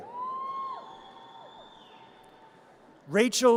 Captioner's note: audience cheers